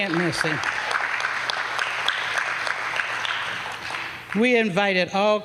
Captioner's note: applause